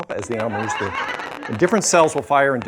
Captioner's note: laughter